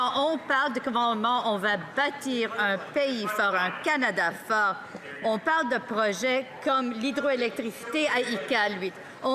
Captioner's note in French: voix de l'interprète